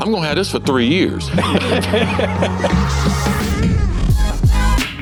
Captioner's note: laughing